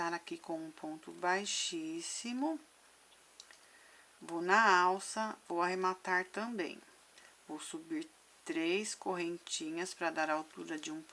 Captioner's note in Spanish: en español